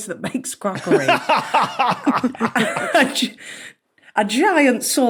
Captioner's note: guests snickering; laughs uproariously